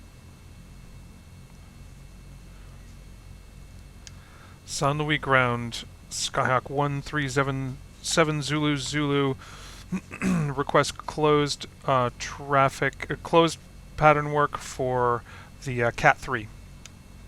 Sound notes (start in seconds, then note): 4.3 me on radio